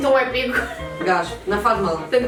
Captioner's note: laughs